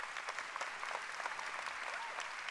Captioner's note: applause